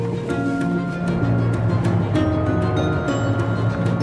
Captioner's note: vehicle rumbling